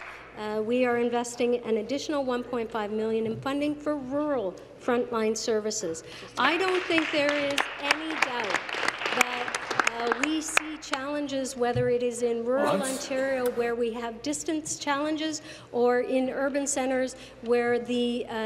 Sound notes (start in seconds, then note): 0.0 applause; 10.8 applause